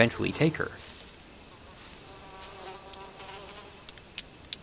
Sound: flies buzzing

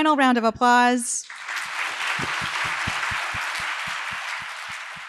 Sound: applause

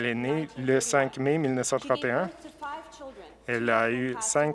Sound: speaking Alternate Language

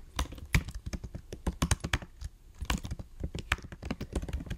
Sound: keyboard clacking

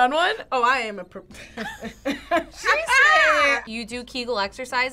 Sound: laugh

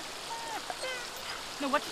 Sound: dog whimpers

